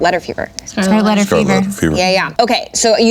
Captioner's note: everyone in unison